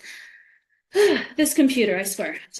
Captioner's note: sighs